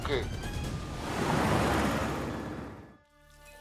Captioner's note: car passing